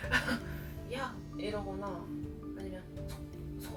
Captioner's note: laugh; shouting